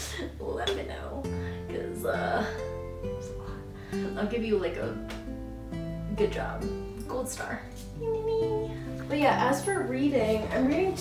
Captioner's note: shiny noises